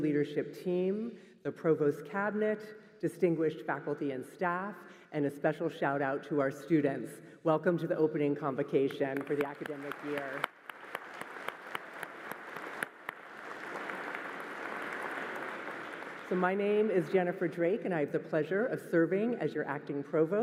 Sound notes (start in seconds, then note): 15.8 applause